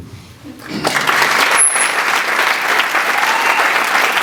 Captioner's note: sustained Applause